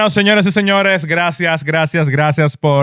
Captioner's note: speaking In Foreign Language